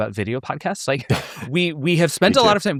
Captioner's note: laughing